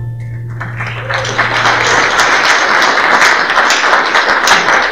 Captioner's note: applause